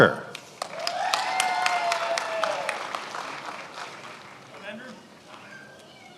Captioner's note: attendees applauding